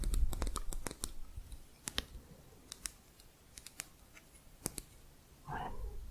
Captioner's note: sporatic tapping